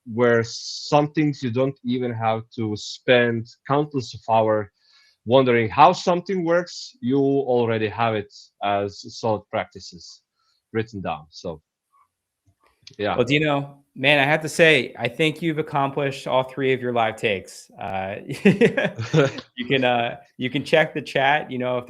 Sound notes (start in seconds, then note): 18.1 chuckles